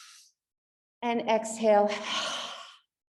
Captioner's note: exhale